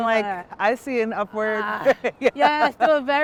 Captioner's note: laughing